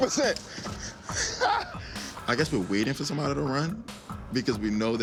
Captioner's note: laughs